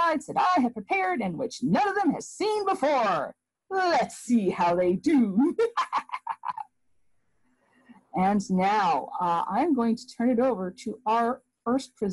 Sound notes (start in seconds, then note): 5.5 evil laugh